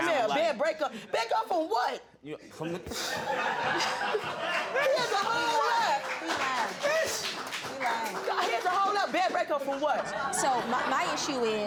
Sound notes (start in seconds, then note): 3.0 audience laughs; 4.1 scoffs